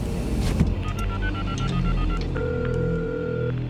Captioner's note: phone dialing, ringing